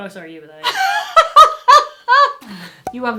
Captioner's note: laughs